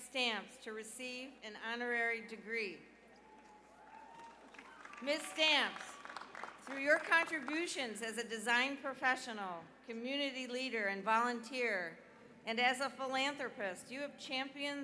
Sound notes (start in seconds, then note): 4.9 cheers and applause